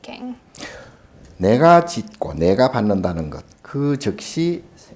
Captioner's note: speaking Korean